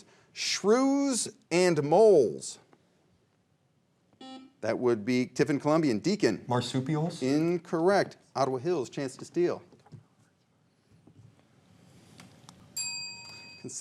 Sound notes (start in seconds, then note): 4.2 buzzer rings; 12.8 bell chimes